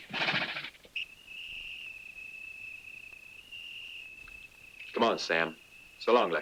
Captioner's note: hooves pattering; insects chirring